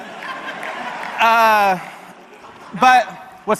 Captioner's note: audience laughs